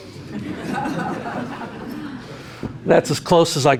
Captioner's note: laughing